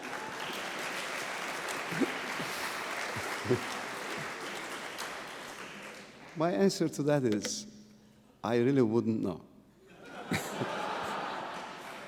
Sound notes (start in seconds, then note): 0.0 applause